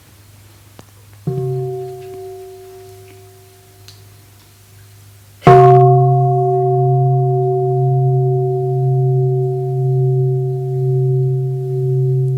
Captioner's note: sound of the Bell